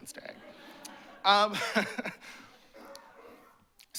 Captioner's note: laughter